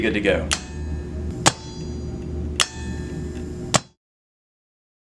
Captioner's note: machine clanks